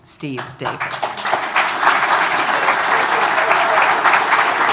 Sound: audience applauding

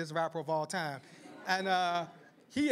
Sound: laughter

